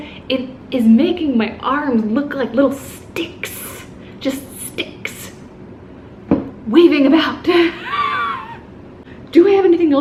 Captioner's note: laughs